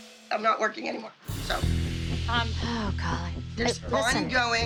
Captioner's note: sighs